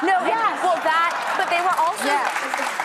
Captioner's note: audience applauds